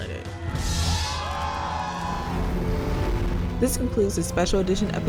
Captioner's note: crowd cheers